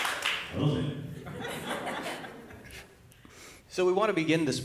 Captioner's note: applause